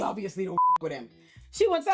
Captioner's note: beep